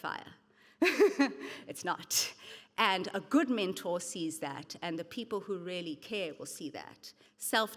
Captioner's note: chuckles